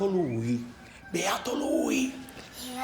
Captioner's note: whispering